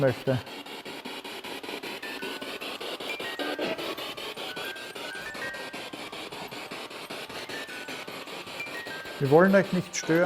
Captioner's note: noise of the spiritbox in the background